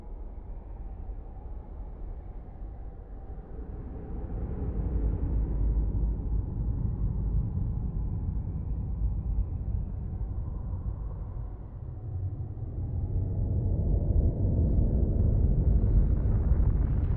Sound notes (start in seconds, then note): 13.4 faint Rumbling